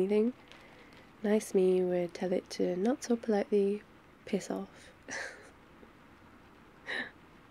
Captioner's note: laughs